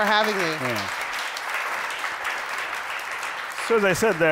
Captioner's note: applause